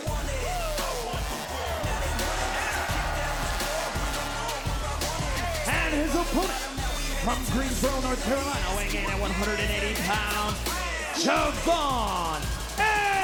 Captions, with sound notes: (upbeat music continues) (crowd cheering) And his opponent from Greensboro, North Carolina, weighing in at 180 pounds, Je'Von Evans.